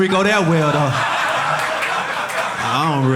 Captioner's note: audience laughing